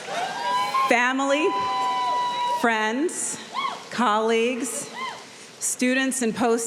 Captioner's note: audience cheering